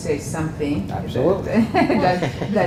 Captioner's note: laugh